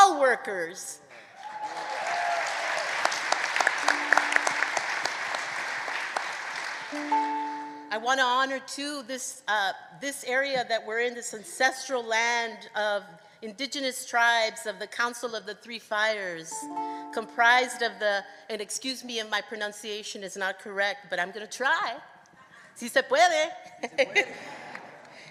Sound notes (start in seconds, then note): 6.1 applause